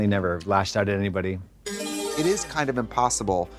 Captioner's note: bright chime